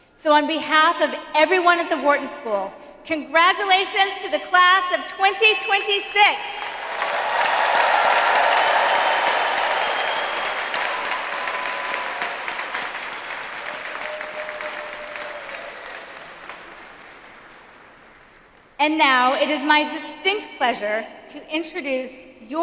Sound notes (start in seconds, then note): 6.7 audience applauds